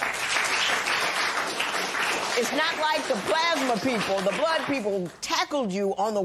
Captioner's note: applause